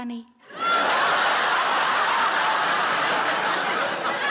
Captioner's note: audience laughs